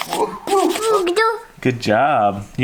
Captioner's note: babbling